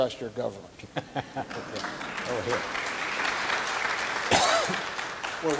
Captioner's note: audience applauding